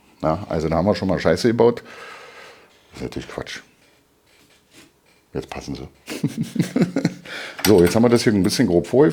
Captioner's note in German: gelächter